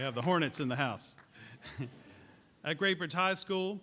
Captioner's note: laughter